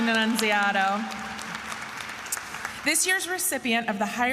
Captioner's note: attendees applauding